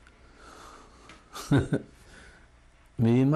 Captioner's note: laughs